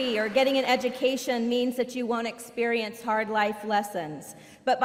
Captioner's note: applause